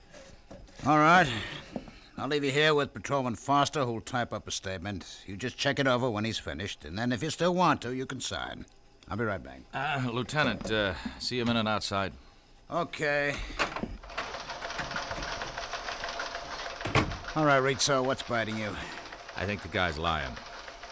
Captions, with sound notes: -I'd be very glad to sign it. -All right. I'll leave you here with Patrolman Foster, who will type up a statement. You just check it over when he's finished. And then if you still want to, you can sign. I'll be right back. -Uh, Lieutenant, uh, see you a minute outside? -Okay. -[ Door opens ] -[ Keys clacking ] -[ Door closes ] All right, Ritzo, what's biting you?